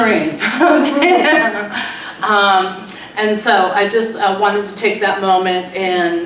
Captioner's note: laughs